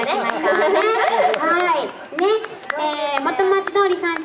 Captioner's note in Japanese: 拍手